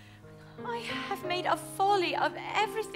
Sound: exhales

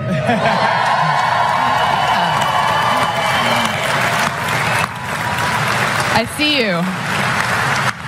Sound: applause

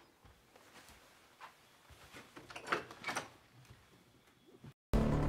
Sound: door opens

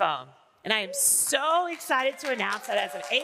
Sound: audience applauding

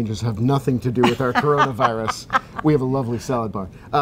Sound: laughing

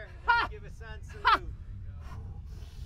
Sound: exclamation

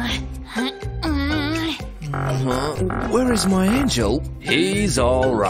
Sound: whispering

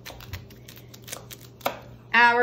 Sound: knife tapping

